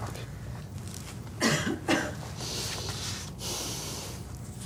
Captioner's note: Toux; Soupir